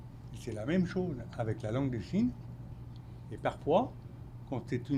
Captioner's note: speaking French